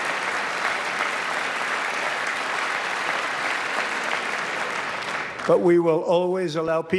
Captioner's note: applause